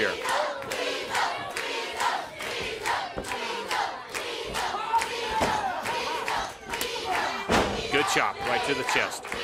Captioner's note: crowd cheering